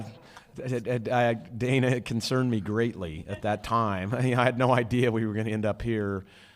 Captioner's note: laughter